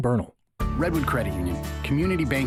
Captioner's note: voiceover